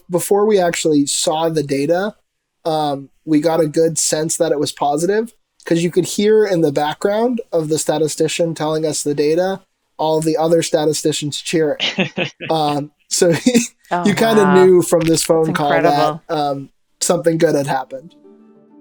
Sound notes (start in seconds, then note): 11.7 laughs; 18.0 gentle upbeat music